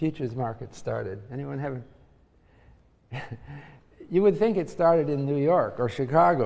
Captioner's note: laugh